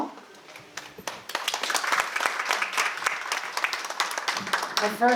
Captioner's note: audience applause